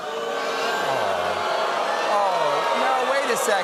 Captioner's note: booing